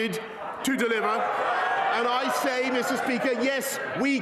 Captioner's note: crowd Noise